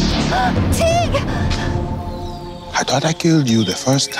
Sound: gasps

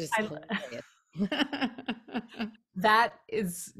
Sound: laughs

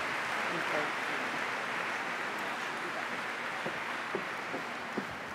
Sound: applause

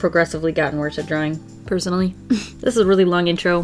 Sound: inward laugh

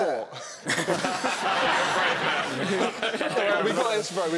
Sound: laughing

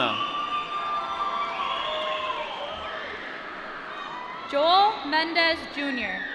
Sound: applause

